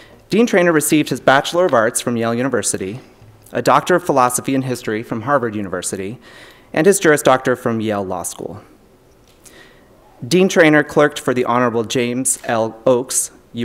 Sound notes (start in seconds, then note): none